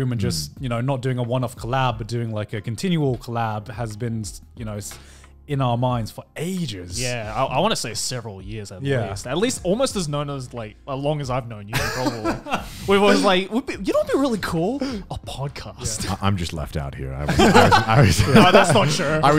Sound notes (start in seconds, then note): 11.7 laughs; 17.2 laughing